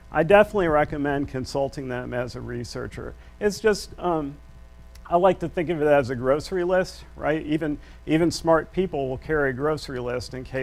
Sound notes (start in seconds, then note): none